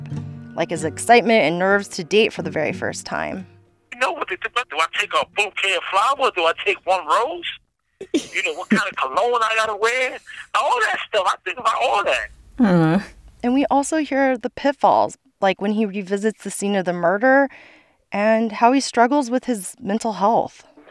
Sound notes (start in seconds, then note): 3.2 soundbite of archived recording; 8.0 laughter; 20.6 soundbite of archived recording